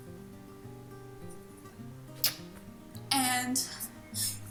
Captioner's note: sobbing